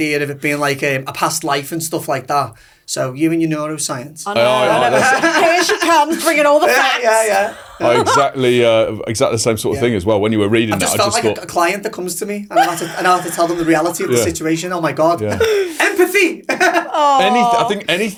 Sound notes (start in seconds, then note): 4.6 laughing; 12.5 laughing